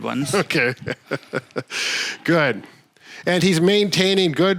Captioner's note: chuckles